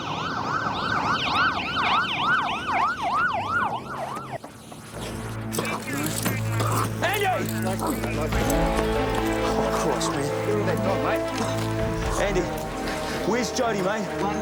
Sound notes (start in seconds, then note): 5.6 police radio chattering